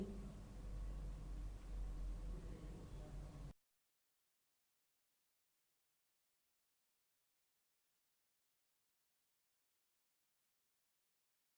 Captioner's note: silence